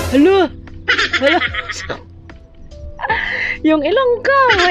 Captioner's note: laughing